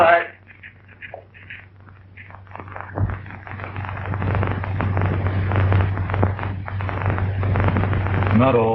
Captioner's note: fire crackling